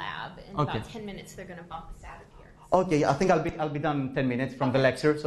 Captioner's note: professor speaking